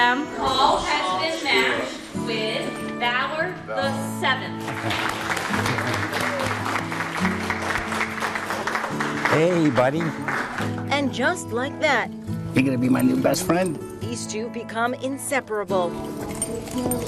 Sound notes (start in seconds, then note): 4.6 clapping